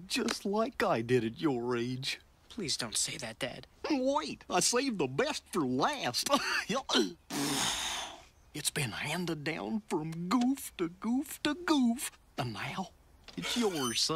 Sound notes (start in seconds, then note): 2.0 stammering; 7.2 blowing